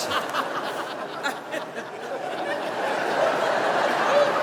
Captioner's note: audience laughing